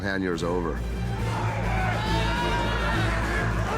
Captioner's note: yelling and grunting